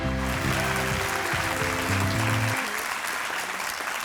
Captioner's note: audience clapping